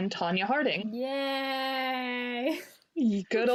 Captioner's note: sarcastically